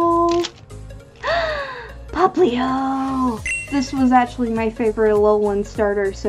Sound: le Gasp

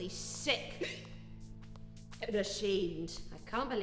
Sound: hiccuping

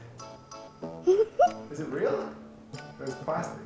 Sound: laughs

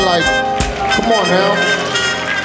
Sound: audience cheering

